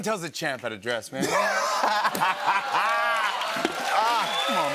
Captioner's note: laughter, cheers, applause